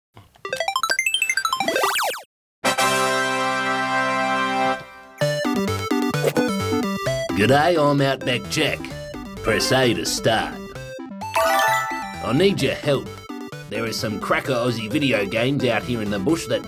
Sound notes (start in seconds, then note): 0.5 video game trills and beeps; 2.6 fanfare!; 10.9 trilling